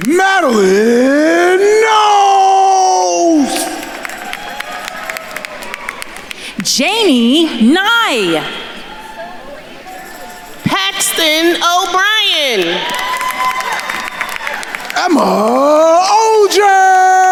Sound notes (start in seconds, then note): 0.0 attendees cheering and applauding; 3.7 attendees cheering and applauding; 9.1 attendees cheering; 13.1 attendees cheering and applauding